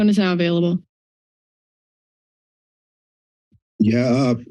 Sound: silence

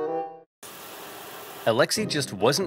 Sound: sprinkling

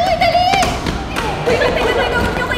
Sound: rushing footsteps

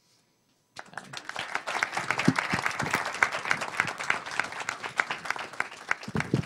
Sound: applause

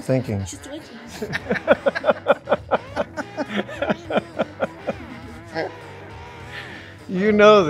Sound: laughter

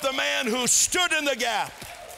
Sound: applause

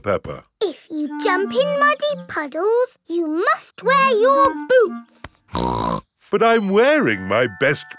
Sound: snorts

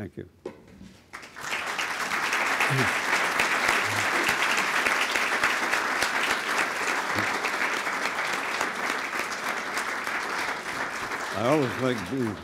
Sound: applause

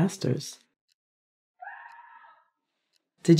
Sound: scream

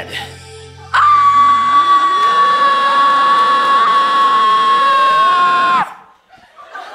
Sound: BATMAN screeches high-pitch like a bat

